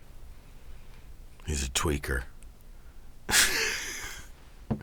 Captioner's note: laughs